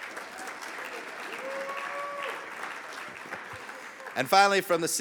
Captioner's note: audience clapping